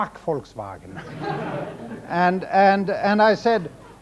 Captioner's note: audience laughs